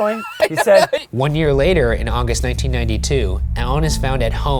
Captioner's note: voiceover